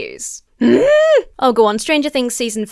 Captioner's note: grunts inquisitively